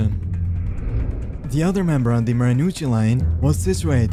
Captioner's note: air whoosh